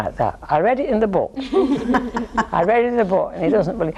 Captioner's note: all laughing